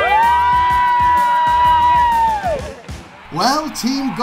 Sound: cheering

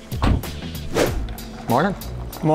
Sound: whoosh

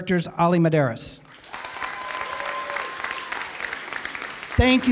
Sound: applause

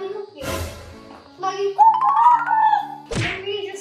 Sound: imitates chicken crowing

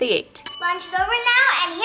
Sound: bell chimes

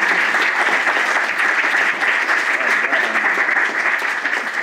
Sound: applause

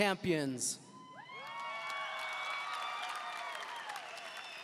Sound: audience cheering

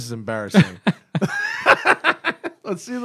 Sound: laughter

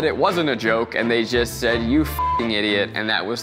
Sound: beep

